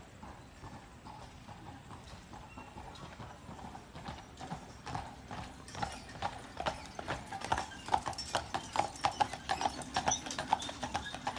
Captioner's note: clip-Clop of horse hooves approaching